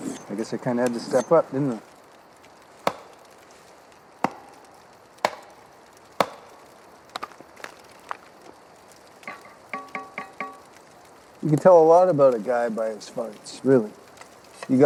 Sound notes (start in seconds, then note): 2.7 log tapping; 2.9 fire crackling